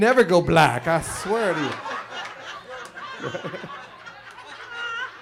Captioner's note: chuckles